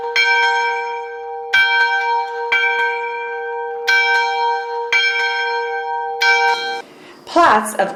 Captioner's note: ringing bell